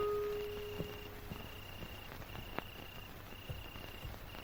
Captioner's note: crickets chirping